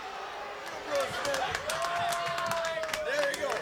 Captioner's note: crowd cheering; crowd clapping